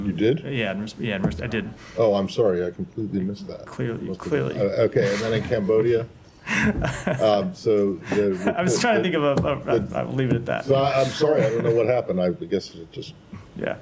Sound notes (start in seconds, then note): 6.4 laughter